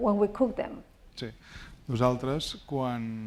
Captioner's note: speaking spanish